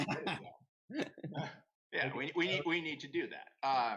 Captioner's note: laugh